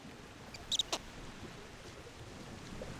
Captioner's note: chirping